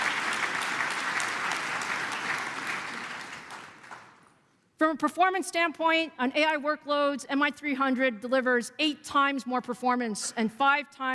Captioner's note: applause